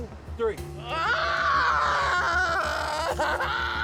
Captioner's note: screaming